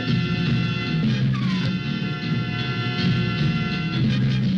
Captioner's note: wolf yelping